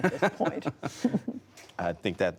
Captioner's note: laughter